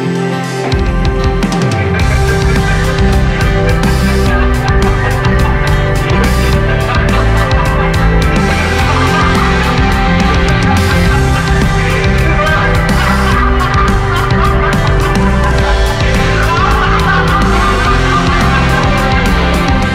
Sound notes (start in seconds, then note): 1.5 Laughs; 11.5 Laughs hysterically